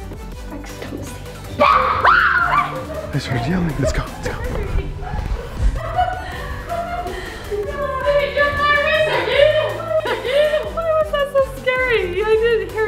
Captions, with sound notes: I just don't see. (kids screaming) - Is that them? Let's go see, let's go. (all mumbling) - Why was that so scary?